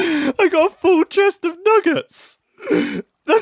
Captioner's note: laughing